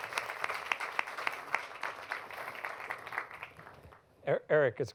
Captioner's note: applause